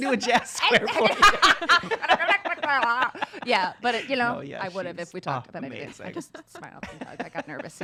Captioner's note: laughs